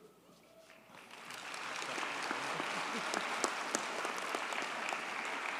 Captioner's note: audience cheers and applauds